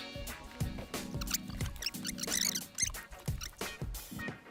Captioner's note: tape squeaking